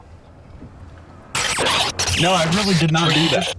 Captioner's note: audio jumbling